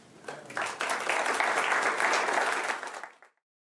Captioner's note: applause